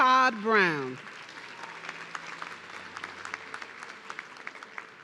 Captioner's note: audience clapping